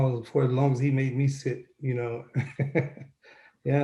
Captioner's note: laughs